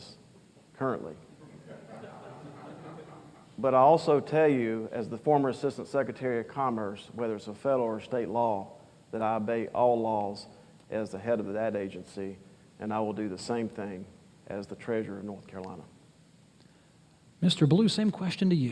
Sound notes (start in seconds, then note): 3.3 laughter